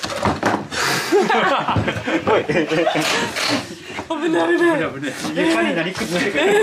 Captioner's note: laughs